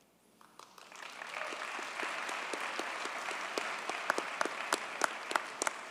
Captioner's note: audience cheers and applauds